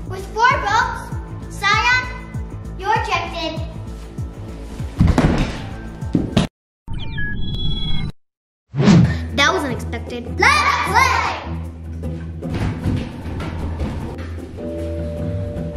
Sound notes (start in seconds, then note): 6.9 signal beeps; 8.6 heavy whooshing